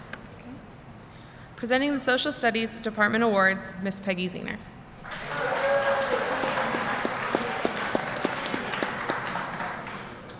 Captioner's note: applause